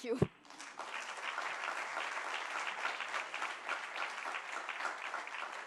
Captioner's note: applause